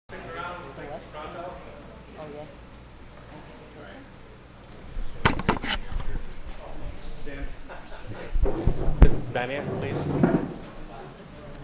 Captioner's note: background conversations